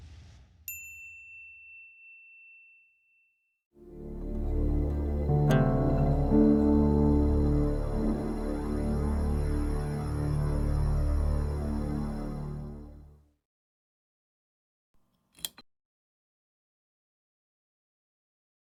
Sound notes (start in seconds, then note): 1.0 logo twinkling; 4.1 ominous music; 15.3 light clicking